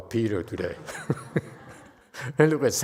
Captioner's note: laughs